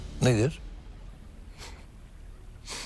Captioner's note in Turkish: Gülüyor